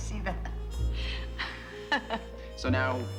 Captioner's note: laughing